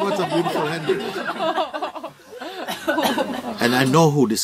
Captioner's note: γέλια